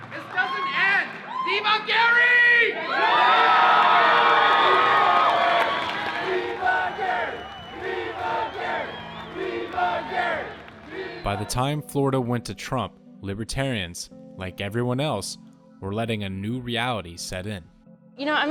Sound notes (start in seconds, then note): 2.7 crowd roars; 6.1 chanting "¡Viva Gary!"